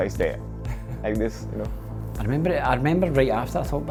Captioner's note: chuckles